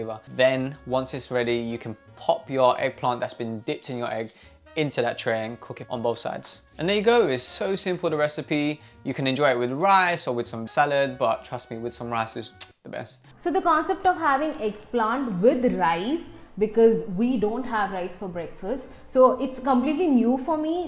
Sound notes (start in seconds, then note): 12.6 kisses